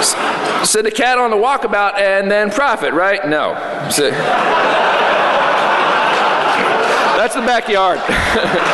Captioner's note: laughter